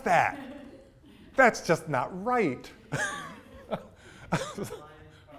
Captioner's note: laughs